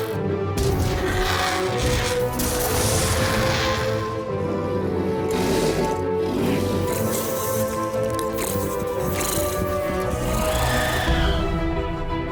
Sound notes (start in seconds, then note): 3.9 loud squawking